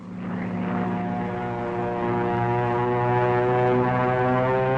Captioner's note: plane buzzing